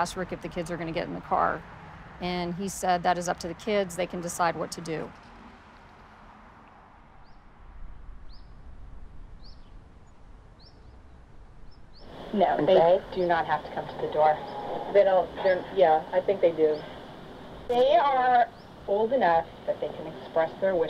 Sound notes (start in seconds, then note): 8.2 birds chirp